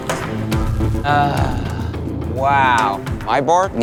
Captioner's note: groans